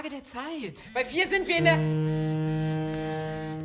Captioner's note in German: Klingelton